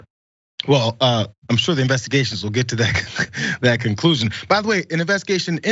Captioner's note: laugh